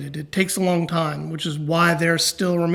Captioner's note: none